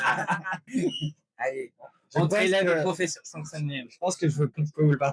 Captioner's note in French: en coréen